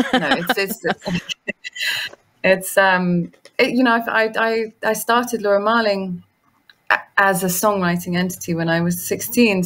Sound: laughs

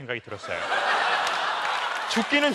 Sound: laugh

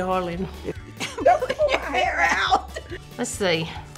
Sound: laughs

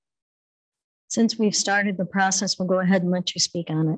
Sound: none

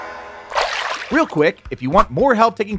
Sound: water splashes

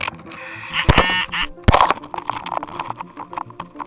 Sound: gadget vibrating

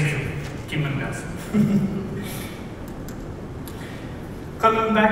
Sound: laughs

